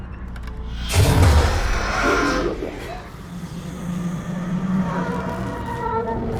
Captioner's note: growling demonically; electricity crackling